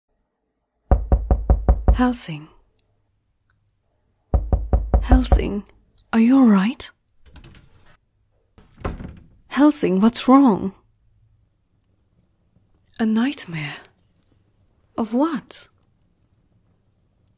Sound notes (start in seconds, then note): 4.3 door Knocking; 8.5 door opens